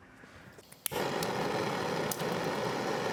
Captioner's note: crackling hissing